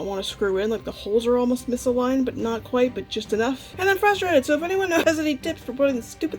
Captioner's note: laughs